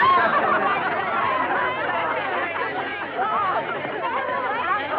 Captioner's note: chatter